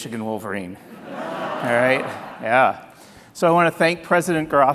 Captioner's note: audience laughing